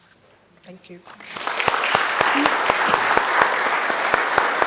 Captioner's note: audience applauding